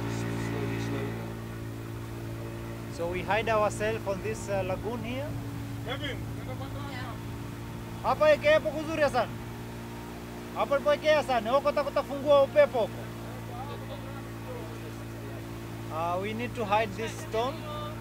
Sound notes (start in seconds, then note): 7.8 speaking Swahili